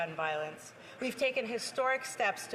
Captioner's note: speaking French